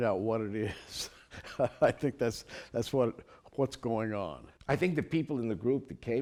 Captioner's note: laughter